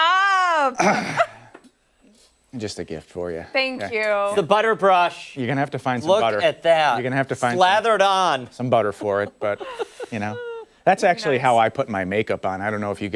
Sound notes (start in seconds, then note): 4.9 laughter